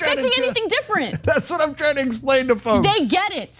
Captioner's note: laugh